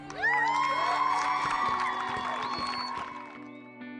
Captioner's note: audience cheering